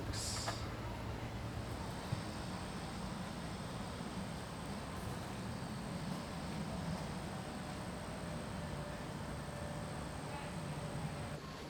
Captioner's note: crickets chirping